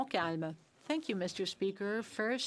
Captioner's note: speaking French